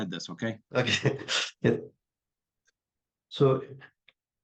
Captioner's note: chuckling